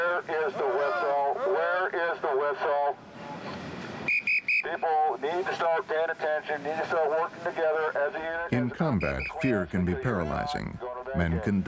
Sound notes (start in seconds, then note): 4.0 whistle blowing; 8.9 voiceover